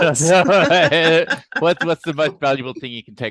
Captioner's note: both laughing